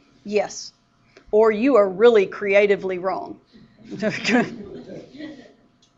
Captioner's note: laughter